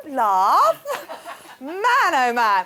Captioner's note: laughing